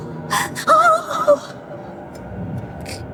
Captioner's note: sobbing